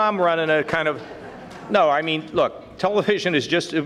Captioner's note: audience laughing